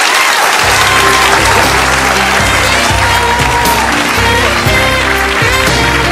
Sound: audience claps

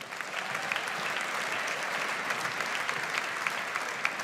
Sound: audience applauds

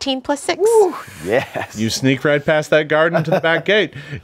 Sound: laughs

